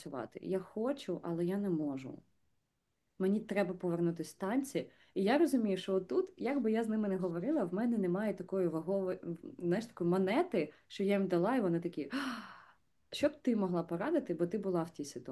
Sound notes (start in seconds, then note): 12.1 gasp